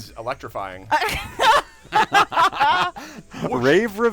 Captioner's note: laughter